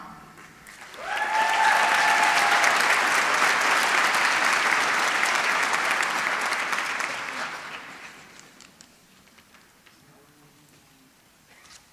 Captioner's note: applause